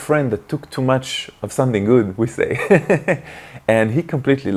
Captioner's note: laughs